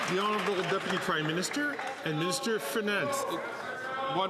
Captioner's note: some Applause